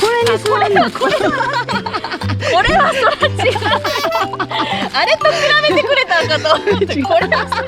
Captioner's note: laughs